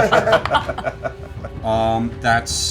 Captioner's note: laughter